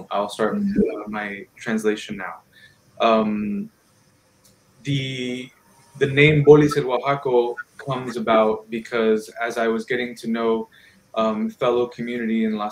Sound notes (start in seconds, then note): 5.4 speaking in foreign language